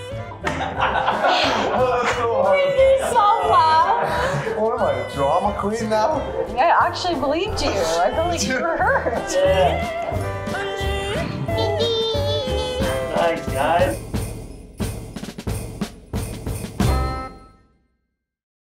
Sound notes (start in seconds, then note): 0.3 all laugh; 10.1 upbeat yodeling music